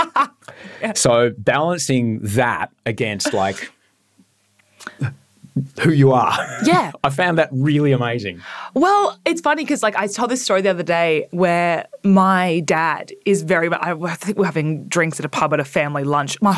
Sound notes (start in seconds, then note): 3.2 laughing